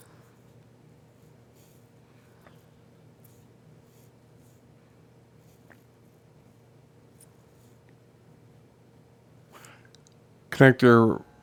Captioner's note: silence